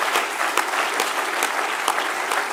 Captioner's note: continued applause